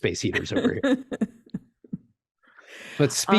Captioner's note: chuckles